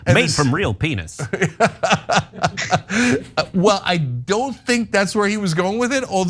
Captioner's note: laugh